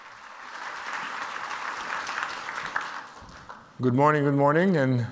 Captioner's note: audience applause